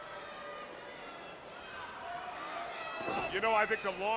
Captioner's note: crowd chattering